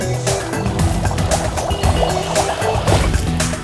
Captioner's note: bubbles; mini explosion